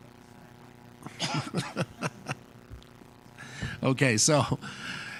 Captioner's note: laughs